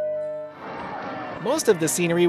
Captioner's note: crowd cheering